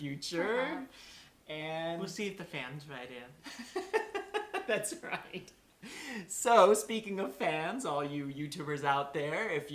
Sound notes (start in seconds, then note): 3.4 laughter